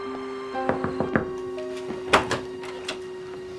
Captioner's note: knock on door